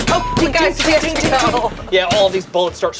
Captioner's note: beep; gun fires